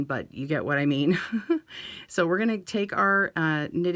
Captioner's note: chuckles